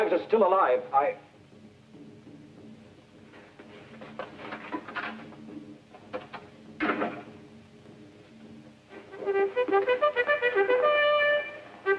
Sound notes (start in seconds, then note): 1.9 footsteps; 9.3 bugle call